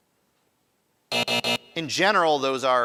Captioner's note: alarm buzzes